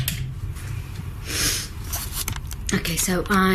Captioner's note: sniffs